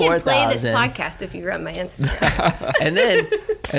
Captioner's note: laughter